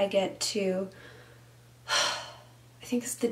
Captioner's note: sighs